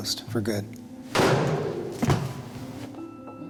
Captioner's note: bang